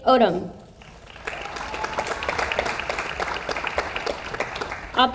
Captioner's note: audience applauds